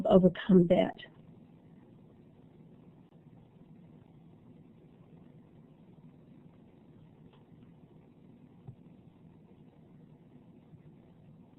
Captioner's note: silence